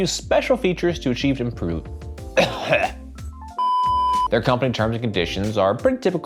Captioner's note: upbeat music; coughs